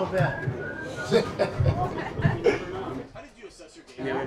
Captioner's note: person whistles loudly; player laughs